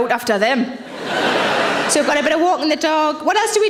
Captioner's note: audience laughs